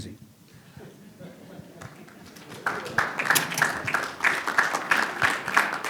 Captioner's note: audience laughing and applauding